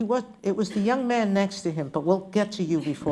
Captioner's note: laughter